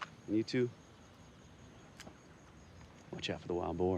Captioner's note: footstep